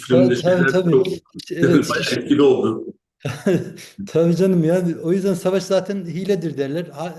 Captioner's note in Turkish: kahkaha